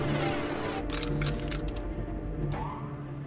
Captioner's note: electrical buzzing